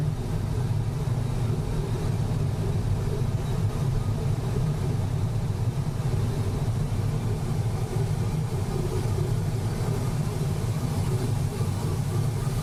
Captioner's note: wind noise increases and decreases and wind whistling